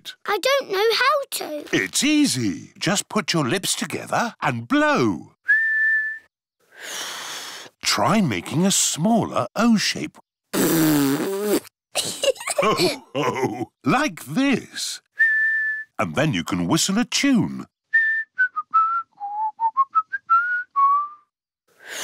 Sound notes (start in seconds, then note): 5.4 whistles; 5.5 failed whistle; 10.5 blows raspberry; 12.0 laughter; 15.1 whistles; 17.9 whistles a tune